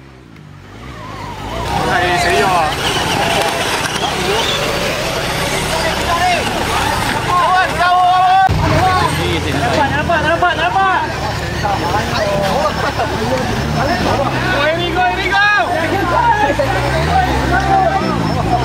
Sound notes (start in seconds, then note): 7.1 crowd cheering and yelling; 14.7 motors hum